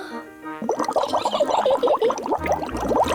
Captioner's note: takes big breath; giggles